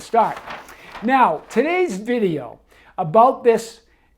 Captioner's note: paper rustle